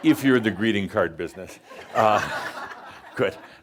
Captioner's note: much laughter; more chuckles